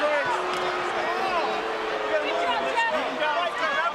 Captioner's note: crowd shouts and boos